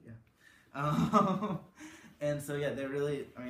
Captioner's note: laughs